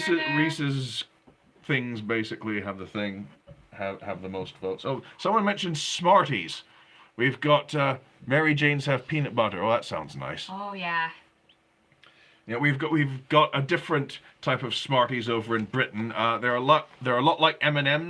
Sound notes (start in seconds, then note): none